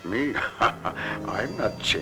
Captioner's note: laughs